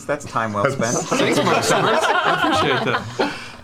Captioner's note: laughter